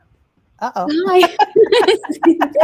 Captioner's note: laughs